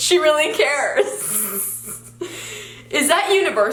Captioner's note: giggles